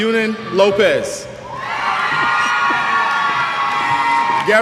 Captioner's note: cheers